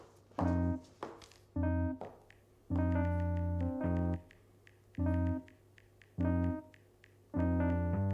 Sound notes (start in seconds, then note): 2.4 dialing pad sounds